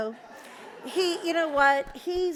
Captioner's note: audience laughs